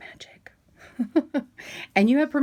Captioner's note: chuckling